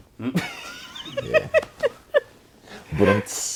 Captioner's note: laughs